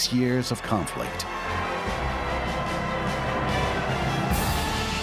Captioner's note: applause continues